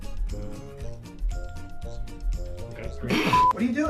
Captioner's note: snickers